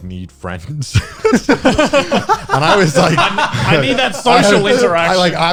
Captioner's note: guys laughing